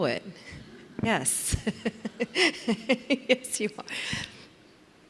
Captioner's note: laughs